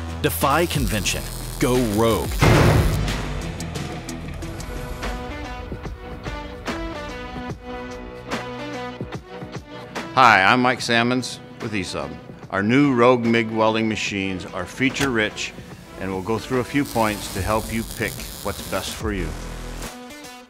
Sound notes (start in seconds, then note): 2.3 machine slams; 4.3 upbeat music